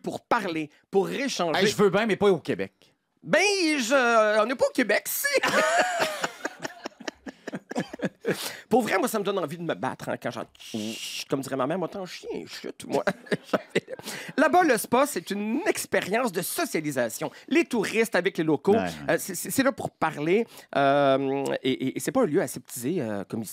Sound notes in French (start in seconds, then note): 5.4 rires